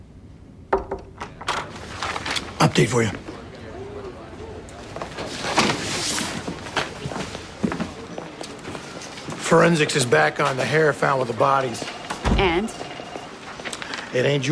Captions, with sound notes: [knock on door] Update for you. Forensics is back on the hair found with the bodies. And? It ain't Julia's.